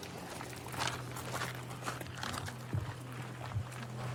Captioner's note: footsteps crunching